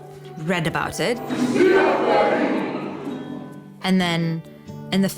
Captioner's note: singing in te reo